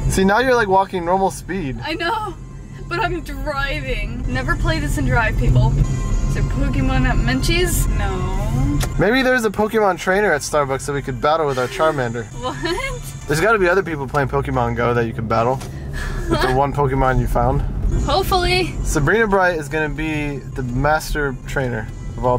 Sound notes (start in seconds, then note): 11.5 laughing